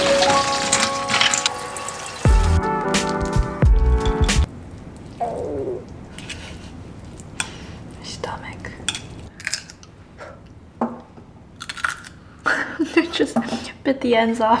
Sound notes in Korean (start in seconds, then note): 5.0 배 꼬로록 소리; 9.3 바사삭; 11.6 바사삭